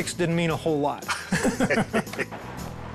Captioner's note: both laughing